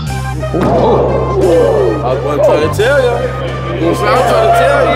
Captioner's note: participants chatting